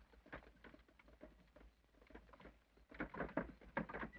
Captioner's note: wagon rattles